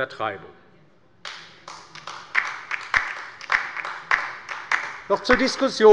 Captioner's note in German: Beifall bei der LINKEN